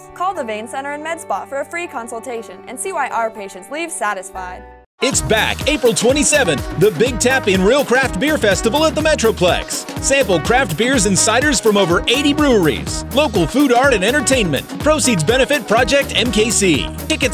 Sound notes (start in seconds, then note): 5.1 voiceover